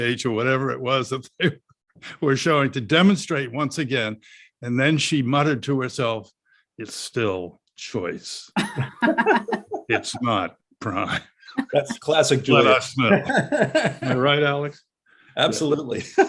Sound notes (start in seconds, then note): 8.6 panelists laugh